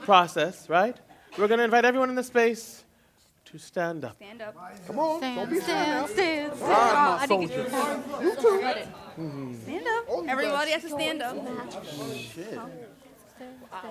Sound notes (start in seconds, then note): 7.6 chatter; 11.1 chatter